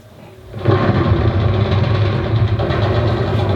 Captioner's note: SFX - Bombs and guns